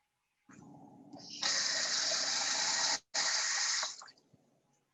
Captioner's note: water splashing